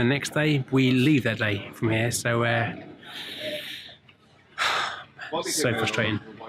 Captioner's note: exhales